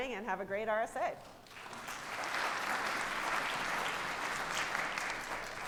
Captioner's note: audience applauding